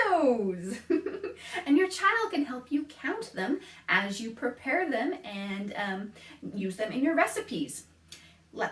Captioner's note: laughs